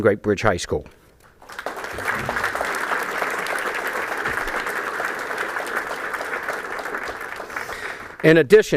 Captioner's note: applause